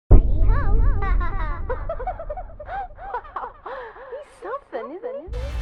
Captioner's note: laughter